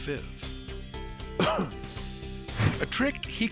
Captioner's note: coughs